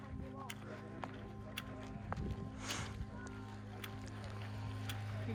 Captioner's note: footsteps